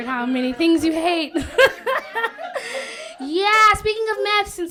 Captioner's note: laughter